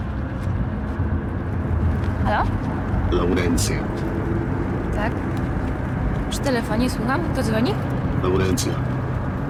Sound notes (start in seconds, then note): 2.6 distorted male voice